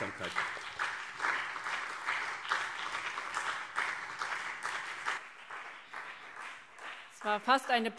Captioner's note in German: Beifall BÜNDNIS 90/DIE GRÜNEN und CDU